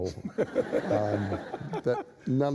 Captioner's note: laughter